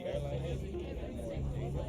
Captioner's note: chatter